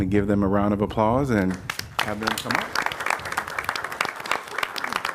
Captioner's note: applause